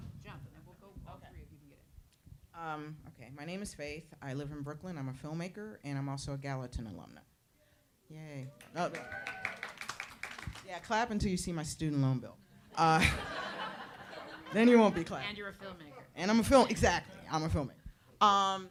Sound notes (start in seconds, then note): 8.5 audience applauds; 8.6 audience cheers